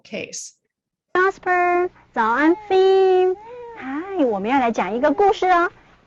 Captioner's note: woman speaks in a foreign language